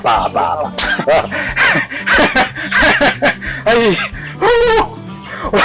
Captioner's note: Kamali laughing